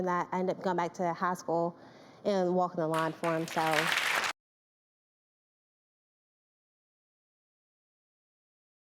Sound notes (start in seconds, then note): 3.0 audience applauding